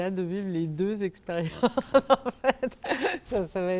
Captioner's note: laughter